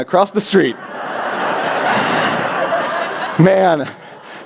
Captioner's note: laughter